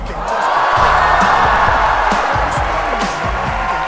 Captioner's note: applause